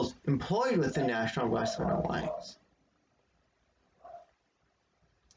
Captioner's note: dog barks in background